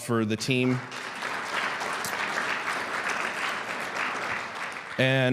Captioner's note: audience clapping